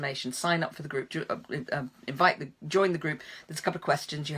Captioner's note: stammering